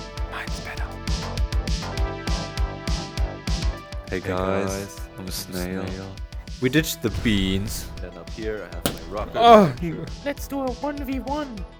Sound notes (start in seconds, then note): 1.0 whisper; 8.8 yapping